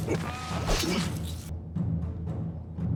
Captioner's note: sword slashes; dramatic music continues